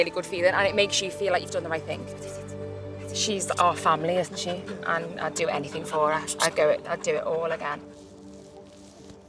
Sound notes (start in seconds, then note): 7.8 kissing